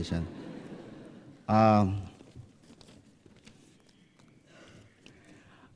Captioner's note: laughter